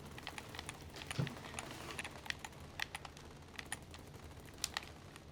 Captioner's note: rattling gunfire from video game